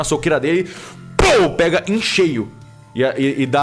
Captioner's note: pow